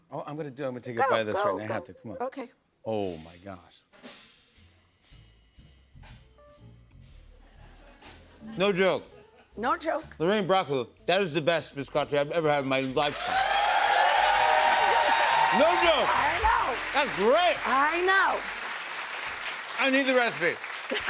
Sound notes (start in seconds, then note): 13.8 cheers and applause